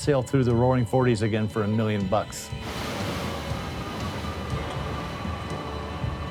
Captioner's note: surf rushing; wind howling